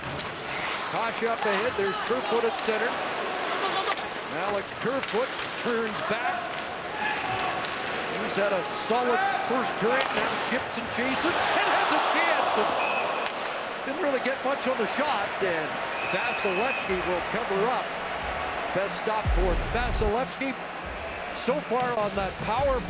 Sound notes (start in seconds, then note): 15.2 crowd noise